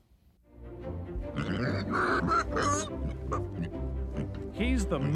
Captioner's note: pig Squealing